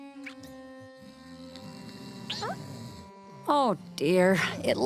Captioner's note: snoring